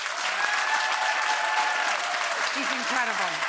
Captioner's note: audience applause